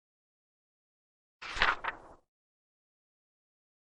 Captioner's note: page turns